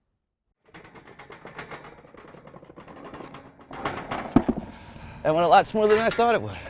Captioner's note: objects shaking and clattering